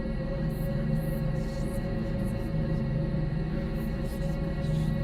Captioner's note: faint whispering